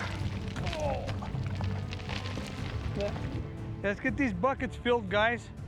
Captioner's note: digging, rocks falling